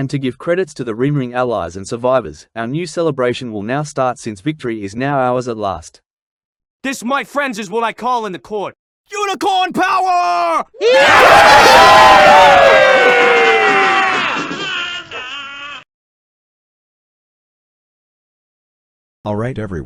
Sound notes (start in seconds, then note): 10.8 battle cry; 13.9 angry birds cheering